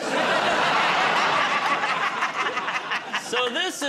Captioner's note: laughter